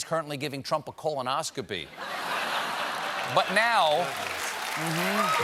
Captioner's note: cheers and applause